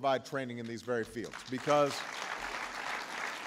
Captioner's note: applause